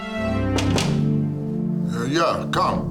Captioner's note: fist knocking